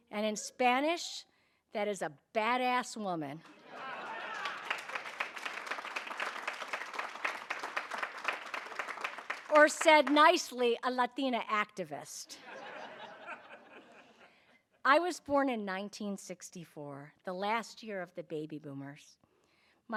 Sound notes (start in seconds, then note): 3.7 audience applauding; 12.4 audience laughing